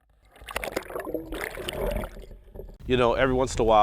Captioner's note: water gurgling